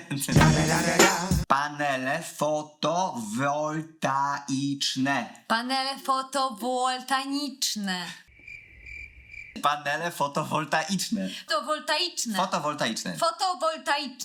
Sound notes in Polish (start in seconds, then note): 0.3 gangsterska muzyka; 8.3 cykanie owadów